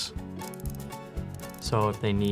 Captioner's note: robot whirling